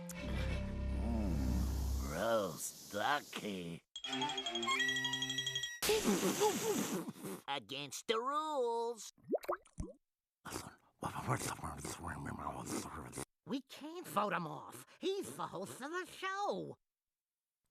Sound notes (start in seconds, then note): 10.4 whispering